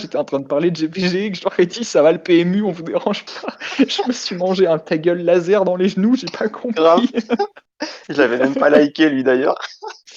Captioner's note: laugh